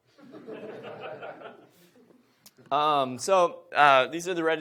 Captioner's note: audience laughs